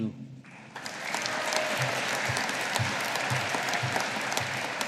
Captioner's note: audience applauding